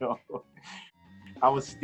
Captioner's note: chuckling